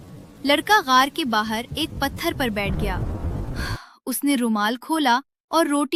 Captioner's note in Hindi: गहरी सांस लेने की आवाज़